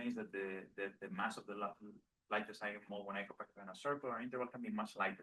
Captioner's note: speaking faintly